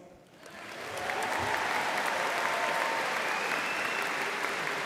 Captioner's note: audience applauding